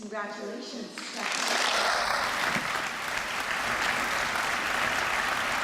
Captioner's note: applause